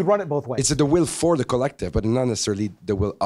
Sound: voiceover

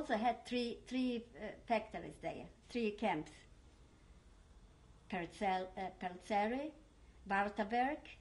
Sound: german

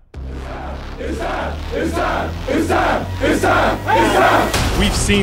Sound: cheering

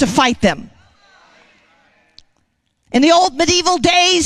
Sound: congregation responding

